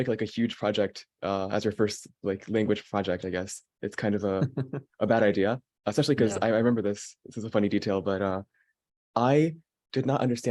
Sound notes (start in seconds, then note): 5.4 laughing